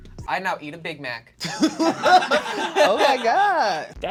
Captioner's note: all laugh